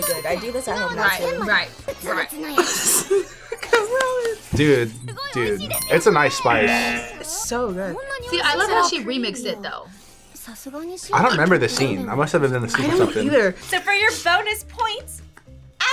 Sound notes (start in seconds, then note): 0.2 bell dings; 2.3 laughs; 6.4 bell dings